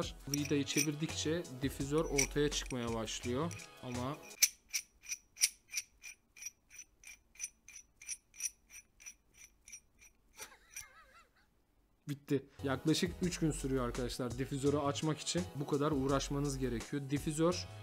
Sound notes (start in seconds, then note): 4.3 pipe screw sound; 10.4 laughter